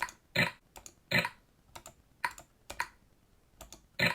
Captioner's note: clicking